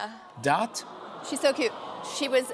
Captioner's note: audience "Awws"